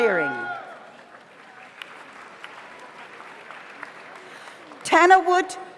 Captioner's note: audience cheers; audience applauds